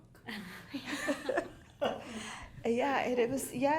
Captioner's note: all laughing